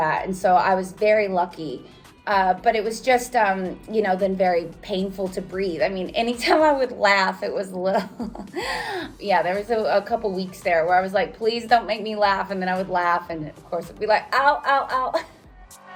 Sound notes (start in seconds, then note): 7.9 laughs; 15.7 upbeat music